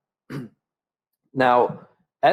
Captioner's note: clears throat